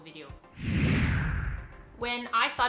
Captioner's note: low whooshing